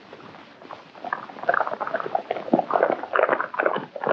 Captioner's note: hooves clomping